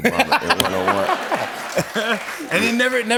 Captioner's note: laughter